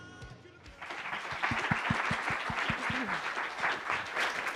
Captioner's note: applauding